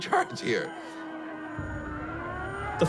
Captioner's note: siren wails